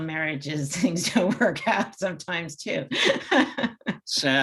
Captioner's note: laughs